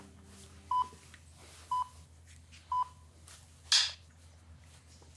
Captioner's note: beeps